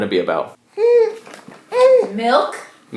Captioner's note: baby grunts